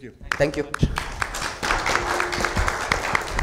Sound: audience applause

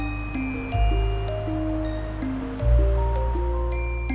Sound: breeze whooshing; upbeat music

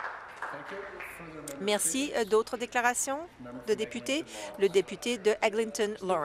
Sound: applause

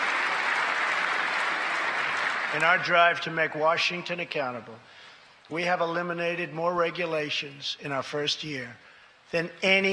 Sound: applause

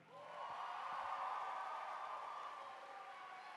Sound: cheering

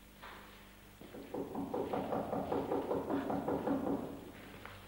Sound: knocking

